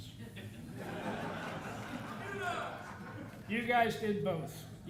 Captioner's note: audience laughing